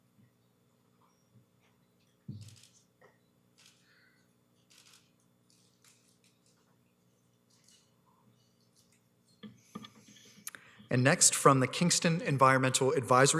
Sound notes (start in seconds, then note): 2.9 camera shutter clicking